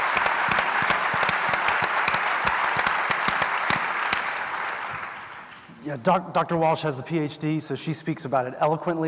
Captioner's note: applause